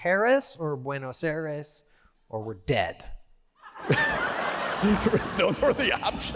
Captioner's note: laughter